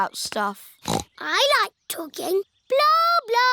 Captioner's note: snorts